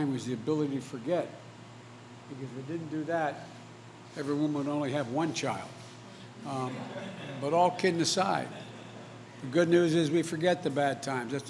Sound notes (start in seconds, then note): 6.6 laughter